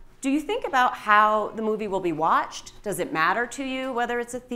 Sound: none

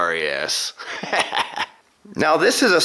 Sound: laughs

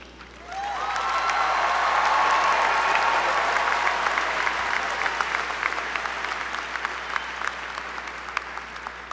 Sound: applause

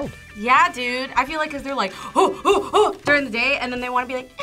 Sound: grunts

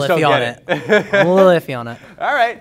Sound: laughs

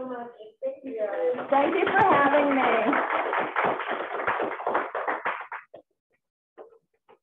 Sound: applause

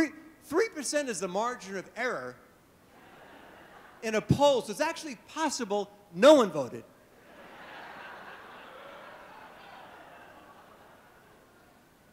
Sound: laughter

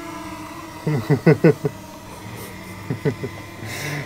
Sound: laughter

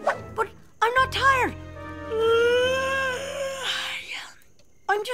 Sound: yawn

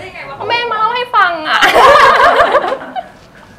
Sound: laughing

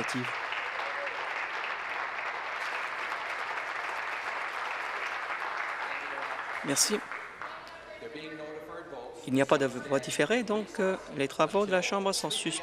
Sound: applause

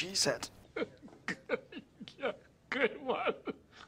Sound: laughing

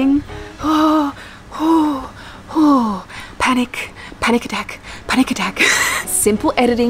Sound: dramatic breathing

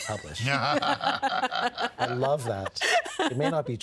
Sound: both laughing

